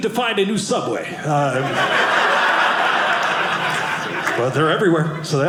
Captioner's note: audience laughing